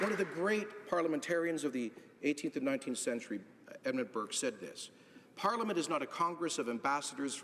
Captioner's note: applause